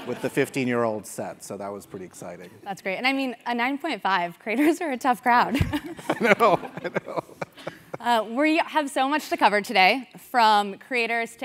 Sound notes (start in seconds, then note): 5.6 laugh